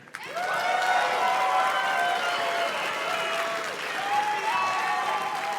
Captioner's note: audience cheers and claps